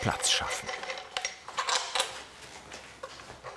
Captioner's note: clinking